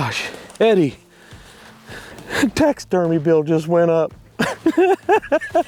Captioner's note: chuckles